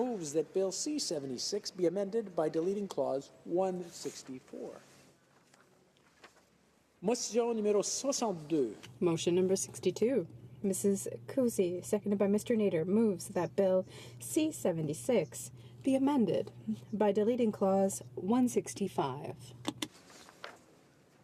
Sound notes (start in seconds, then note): 15.2 speaking French